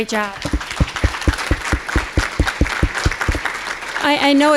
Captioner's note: applause